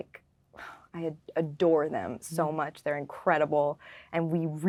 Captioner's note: sighing